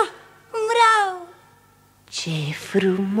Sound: none

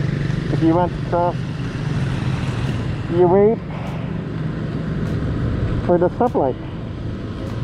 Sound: traffic

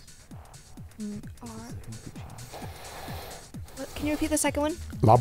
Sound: whispering

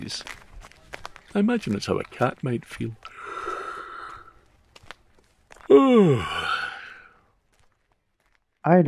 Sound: yawn

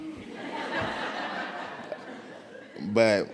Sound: audience laughs

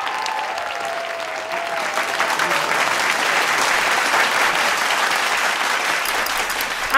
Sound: audience applause; cheers & Applause

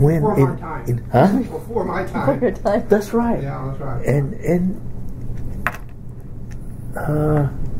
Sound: laughs

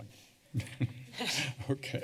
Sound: chuckles

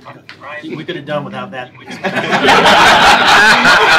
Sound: laughter

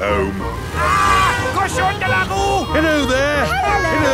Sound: yells

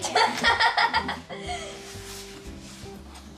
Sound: laughing

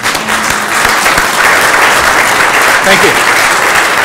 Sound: applause

